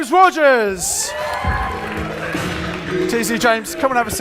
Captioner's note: audience cheers; audience applauds